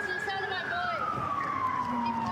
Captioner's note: sirens